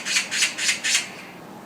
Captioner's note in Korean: 까치 울음소리